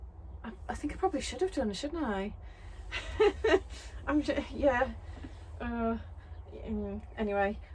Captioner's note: laughs awkwardly